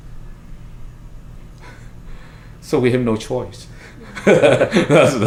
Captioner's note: laughs